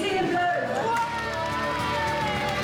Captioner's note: cheering